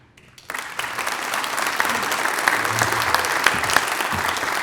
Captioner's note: applause